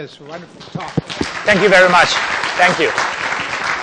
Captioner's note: applause